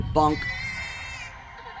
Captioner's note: baby scream